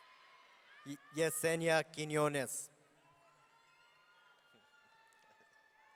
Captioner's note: audience cheering; audience cheering